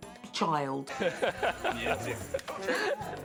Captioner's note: laughing